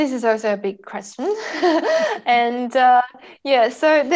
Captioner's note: both chuckles